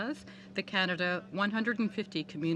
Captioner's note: speaking French